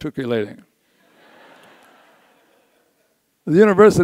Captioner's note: audience laughs